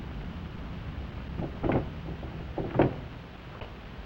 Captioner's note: door rattling